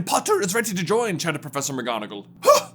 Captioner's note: gruffer; gasp